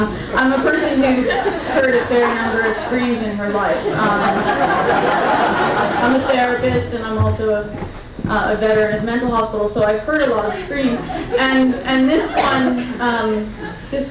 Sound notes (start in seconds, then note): 0.0 crowd laughing; 4.0 crowd laughing intensifies; 10.0 crowd giggling